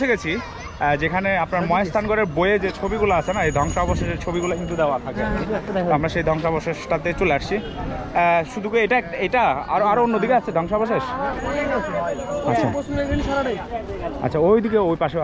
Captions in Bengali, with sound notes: আমরা পৌঁছে গেছি যেখানে আপনার মহাস্থানগড়ের বইয়ে যে ছবিগুলো আছে না, এই ধ্বংসাবশেষের ছবিগুলো কিন্তু দেওয়া থাকে। তো আমরা সেই ধ্বংসাবশেষটাতে চলে আসছি। শুধু কি এটাই? আরও অন্য দিকে আছে ধ্বংসাবশেষ? (chatter) ঐ পাশেও আছে না?